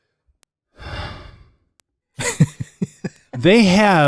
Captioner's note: sighs